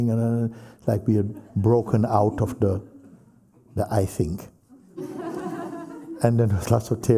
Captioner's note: laughter